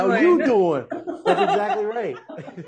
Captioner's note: laughing gently